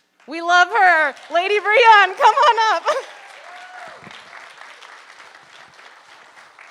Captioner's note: audience applauding